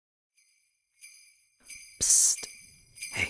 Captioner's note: bells ring